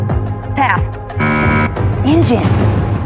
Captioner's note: buzzer sounds